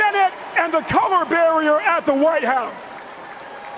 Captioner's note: cheers and applause